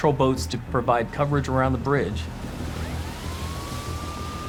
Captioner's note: siren wailing